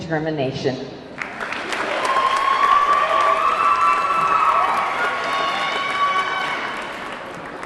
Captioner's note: audience clapping; audience cheering